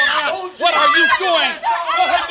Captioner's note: Debra screams